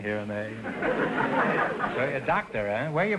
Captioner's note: audience laughter